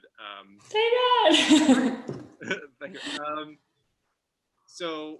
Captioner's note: laughing